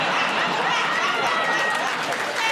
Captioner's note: laughter